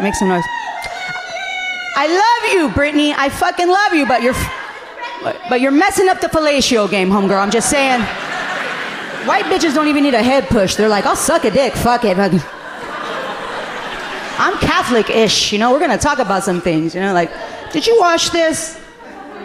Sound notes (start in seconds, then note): 8.7 audience laughing amusingly; 12.9 audience laughing amusingly